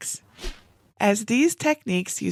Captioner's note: graphics whooshing